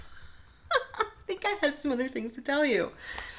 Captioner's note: through laughter; more laughter